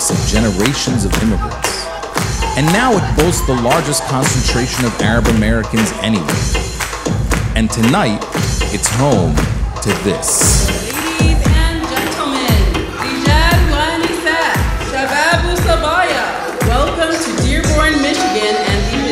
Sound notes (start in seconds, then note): 13.3 speaking foreign language